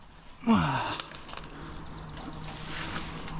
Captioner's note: grunts